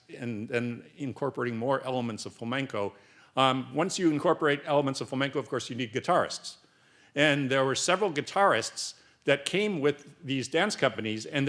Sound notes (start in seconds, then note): none